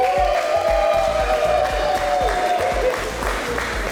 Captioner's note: crowd cheering